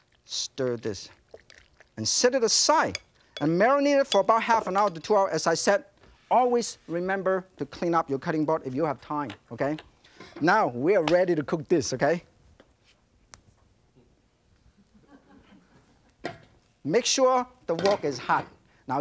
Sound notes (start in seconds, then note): 14.8 audience giggling